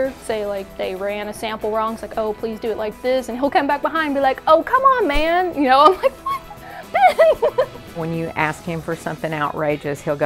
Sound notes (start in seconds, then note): 5.6 laughs